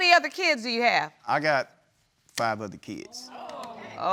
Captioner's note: audience murmurs